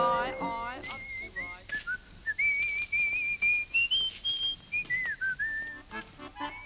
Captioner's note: whistling